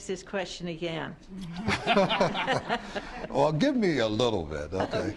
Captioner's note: laughter